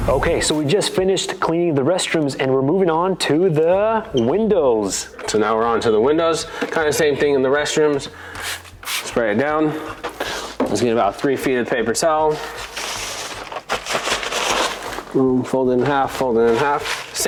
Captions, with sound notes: Okay, so we just finished cleaning the restrooms and we're moving on the windows. - So now, we're on to the windows, kind of the same thing in the restrooms. (cleaner spraying) Spray it down. Let's get about three feet of paper towel. (towel rustling) And then fold it in half, fold it in half.